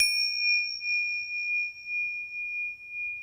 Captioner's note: bell chimes